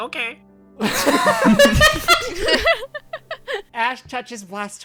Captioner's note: everyone laughs